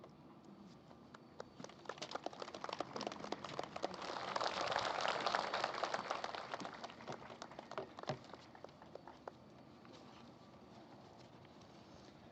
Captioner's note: applause